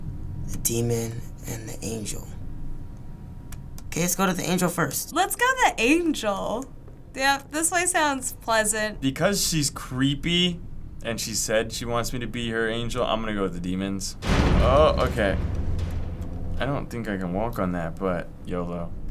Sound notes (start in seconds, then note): 14.1 loud bang